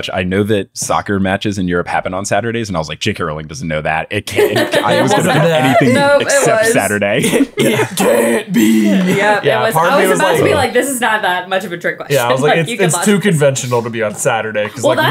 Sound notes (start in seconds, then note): 6.6 laughing